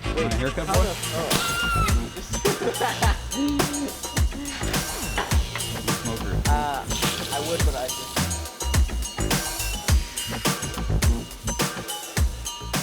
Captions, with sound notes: (jazz music) Wanna hear a couple? (laughing) (jazz music) - Ah. I would but I just... (jazz music)